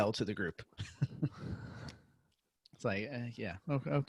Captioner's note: laughing